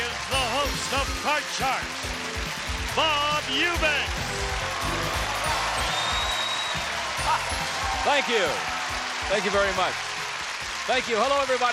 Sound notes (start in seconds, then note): 4.5 applause and cheers